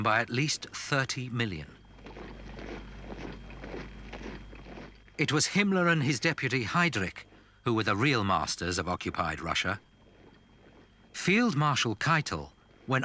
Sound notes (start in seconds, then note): 2.6 boots thudding